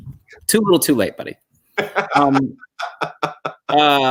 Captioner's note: chuckle